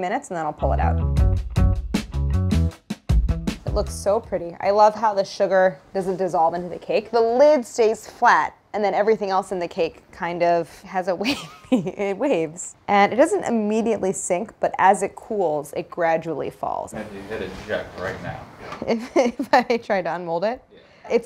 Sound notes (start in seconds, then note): 0.6 funky music; 11.3 laughing